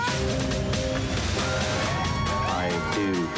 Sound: screaming

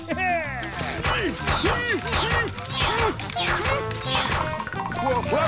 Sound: chuckles; grunting

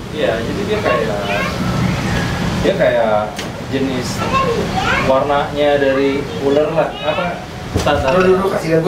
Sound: there are kids talking in the background

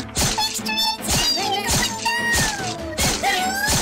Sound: stabbing sound effects; mouse voice

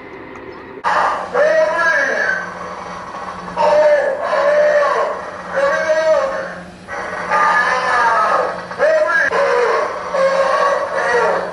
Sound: screaming and begging

